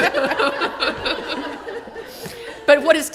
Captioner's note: laughter